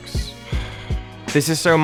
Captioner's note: sigh